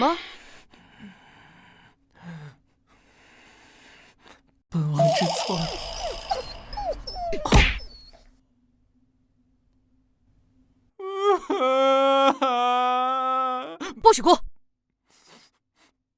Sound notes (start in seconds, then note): 11.0 sobbing